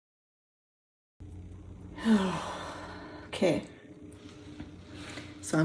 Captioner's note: exhaling loudly